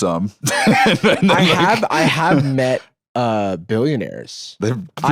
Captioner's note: laughing